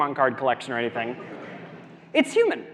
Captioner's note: audience laughs